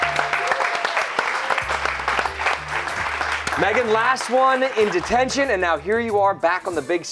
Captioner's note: cheers and applause